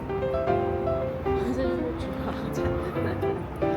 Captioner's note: laughs